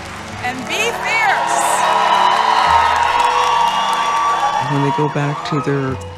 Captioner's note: applause and cheering